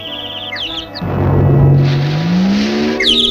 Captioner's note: smack!; splash!